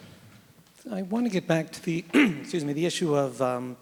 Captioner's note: clears throat